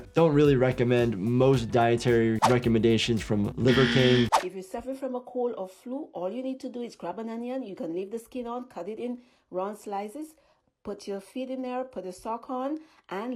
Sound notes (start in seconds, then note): 3.6 buzzer buzzing